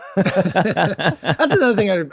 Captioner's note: everyone laughs